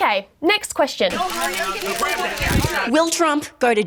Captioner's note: journalists clamour, cameras click